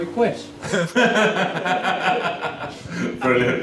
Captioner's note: laughter